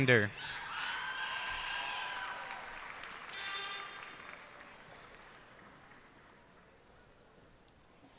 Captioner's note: cheers and applause